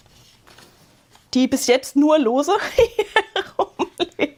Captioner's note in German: gelächter